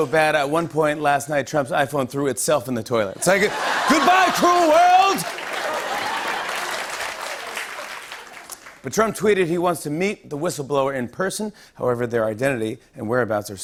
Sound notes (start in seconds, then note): 4.3 applause